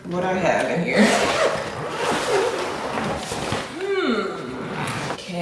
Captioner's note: bag zipping